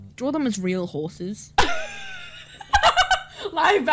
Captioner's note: laughs